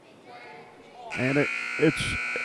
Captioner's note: buzzer sounds